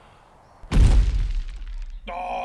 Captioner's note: smashing thud